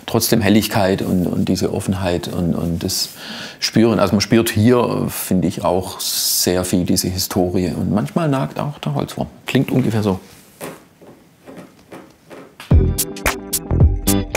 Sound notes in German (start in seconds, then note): 11.4 Klopfen; 12.6 Rhythmische Musik